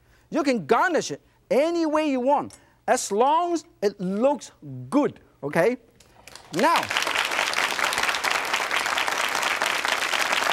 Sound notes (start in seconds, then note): 6.2 audience claps